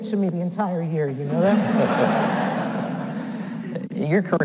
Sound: audience laughs

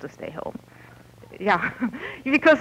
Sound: laughter

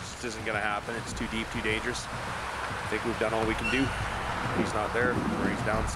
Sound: voiceover

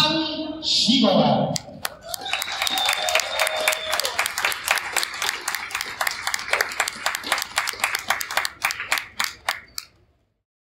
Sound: crowd whistles and applauds

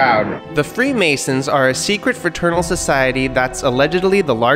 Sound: voiceover

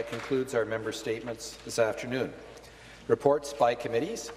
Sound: applause

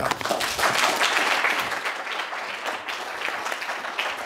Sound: audience applauding

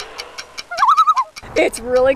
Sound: loon call

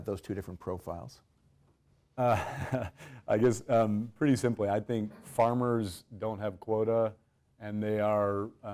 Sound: laugh

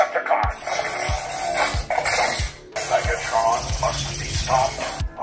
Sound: Optimus Prime whirring

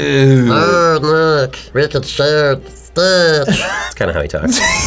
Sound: as Stitch

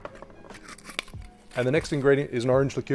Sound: lid screwing

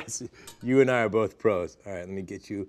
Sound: laughing

